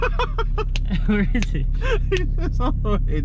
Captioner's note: laughing; laughs; hand slapping